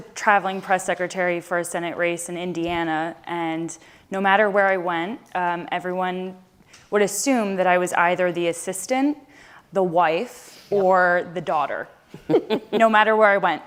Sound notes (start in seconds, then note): 12.1 laughter